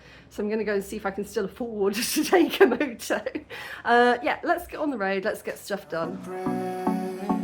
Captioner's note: laughing; chill music